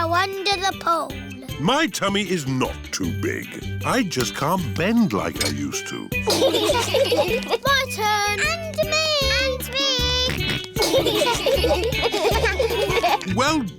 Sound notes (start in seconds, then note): 6.2 laughter; 10.3 george snorts; 10.7 laughter